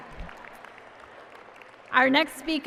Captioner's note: applause